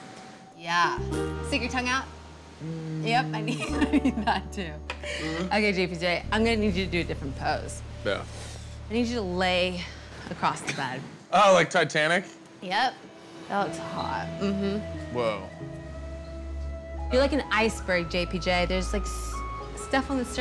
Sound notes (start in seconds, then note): 0.0 quirky music; 3.1 giggling